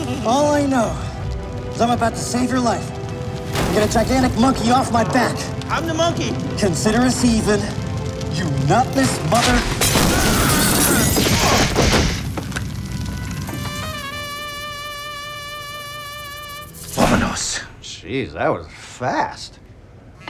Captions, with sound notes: All I know is I'm about to save your life. Gonna take a gigantic monkey off my back. I'm the monkey. Consider us even. You nutless mother. [screams] [crash] Vamanos. Jeez, that was fast.